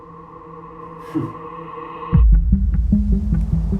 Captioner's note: Chetan chuckling; light dramatic music